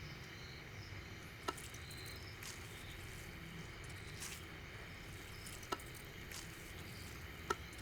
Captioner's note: plants mashing